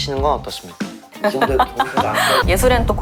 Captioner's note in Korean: 복식 웃음